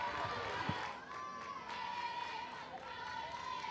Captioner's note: crowd cheers